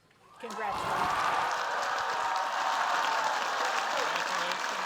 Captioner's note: cheers, applause